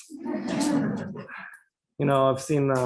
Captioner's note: laughter